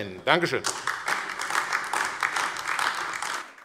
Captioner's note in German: Beifall AfD